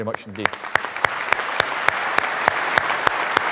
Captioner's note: applause